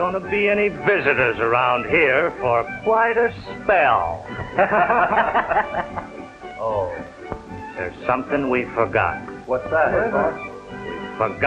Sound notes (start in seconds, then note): 4.5 laughter